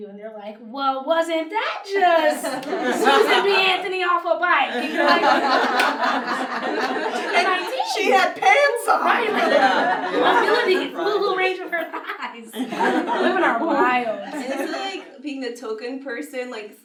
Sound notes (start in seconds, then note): 4.7 everyone laughs; 9.1 laughs; 12.3 laughs